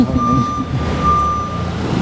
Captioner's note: laughs